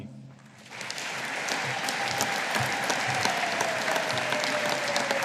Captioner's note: audience applauding